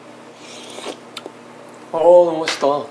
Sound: sipping; sipping and tasting

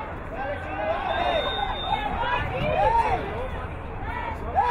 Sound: whistle blowing

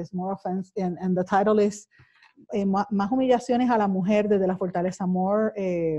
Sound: speaking foreign language

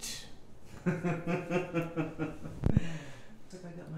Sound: laughing

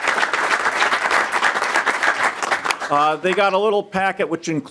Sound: applause

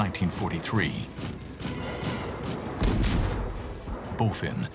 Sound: explosions

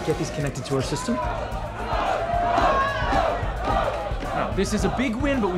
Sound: chanting

